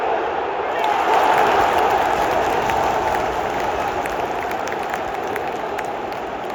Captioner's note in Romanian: Aplauze